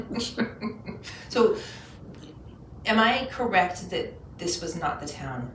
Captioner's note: laughing